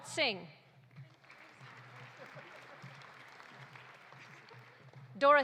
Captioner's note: audience applauding